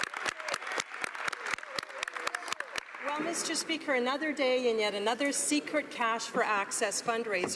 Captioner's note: some Applause